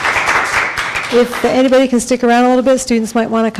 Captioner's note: applause